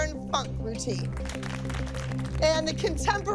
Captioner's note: soft applause